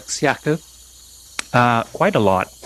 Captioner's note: chuckles